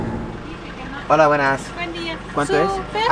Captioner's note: in Spanish